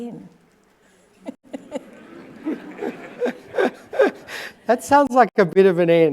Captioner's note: audience laughing